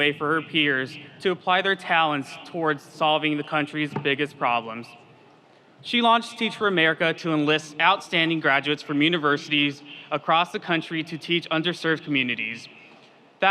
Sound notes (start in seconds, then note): none